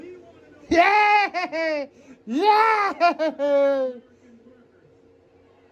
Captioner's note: evil laughter